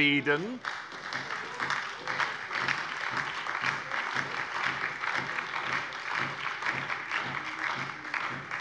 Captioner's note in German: Beifall bei der SPD, der LINKEN und der FDP